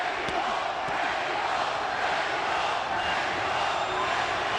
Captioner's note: audience chanting "mexico!"